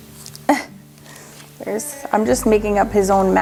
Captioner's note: laughs